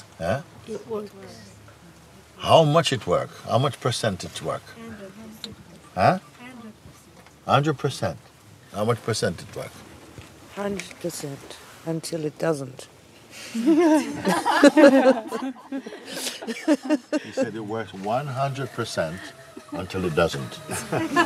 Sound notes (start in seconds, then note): 13.5 laughter